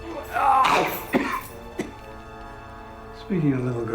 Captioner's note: grunting; coughing